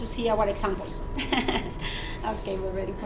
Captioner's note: chuckles